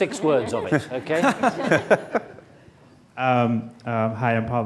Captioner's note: laughing